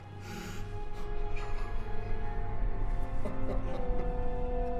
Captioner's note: sobbing